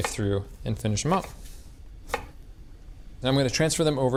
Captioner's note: knife chopping